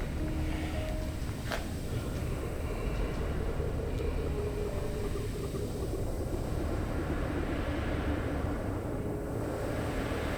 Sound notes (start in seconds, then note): 6.7 dark sounds